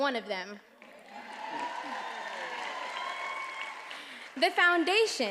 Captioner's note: attendees applauding and cheering